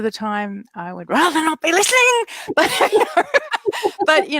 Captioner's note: laughs